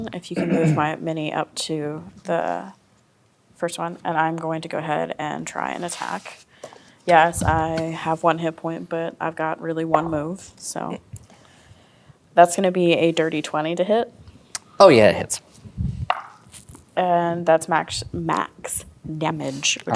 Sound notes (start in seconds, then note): 10.7 dice rolling; 15.7 dice rolling